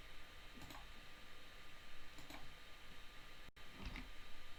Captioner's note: mouse clicking